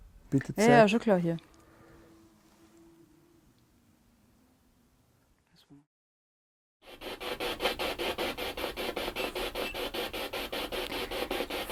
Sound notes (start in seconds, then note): 1.5 silence in the background